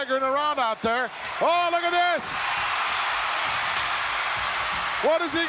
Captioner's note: audience cheering